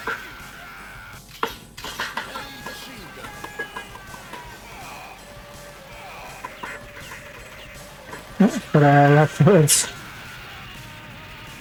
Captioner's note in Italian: Applauso